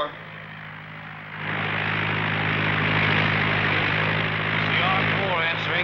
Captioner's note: plane engine whirs